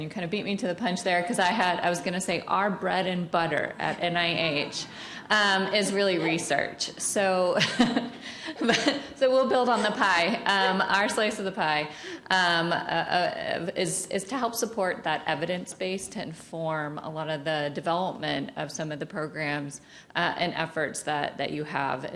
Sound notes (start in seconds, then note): 9.3 laughs